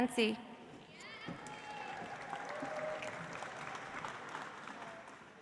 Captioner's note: audience applauds